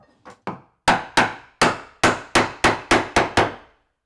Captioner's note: hammer clunking